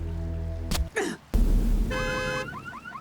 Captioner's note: masked runner grunts; car alarm blares